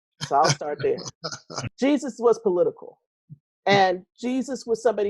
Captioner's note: laughing